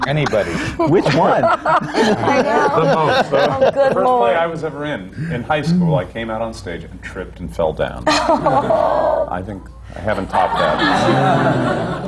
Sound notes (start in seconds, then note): 3.2 laughter; 8.0 sympathetic laughter; 11.8 laughter